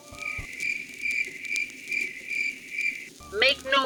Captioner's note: crickets